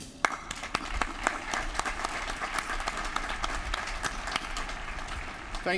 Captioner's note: applause